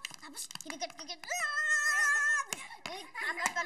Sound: Ethel squealing; Hansel chuckles

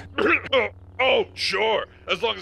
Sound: sith coughs

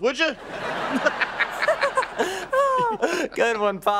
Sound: laughing

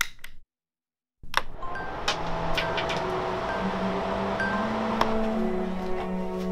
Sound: A filter fan whirs. An electronic chime soon signals completion

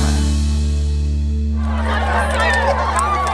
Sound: cheers

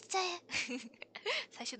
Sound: laughs

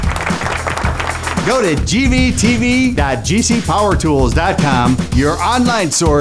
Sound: applause

